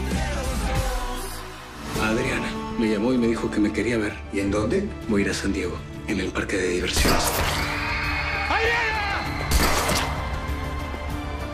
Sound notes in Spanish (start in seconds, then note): 6.9 Disparos; 9.4 Disparo